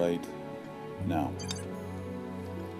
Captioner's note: beep